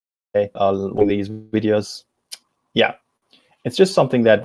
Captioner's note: distortion muffles speaker